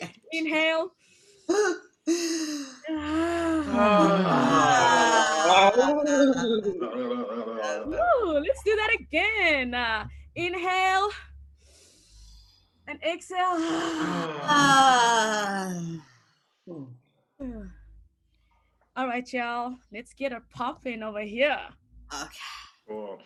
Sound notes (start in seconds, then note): 1.0 inhaling and exhaling audibly; 11.5 inhaling audibly; 13.6 exhaling audibly